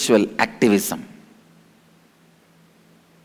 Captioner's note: hindi